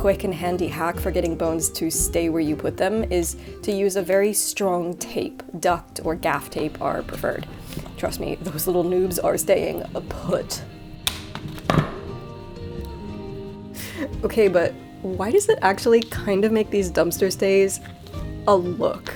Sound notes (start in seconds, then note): 11.1 scissors thudding; 11.4 gentle bright music